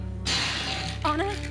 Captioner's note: ice crackling